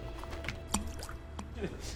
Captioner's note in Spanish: Tthunk, thunk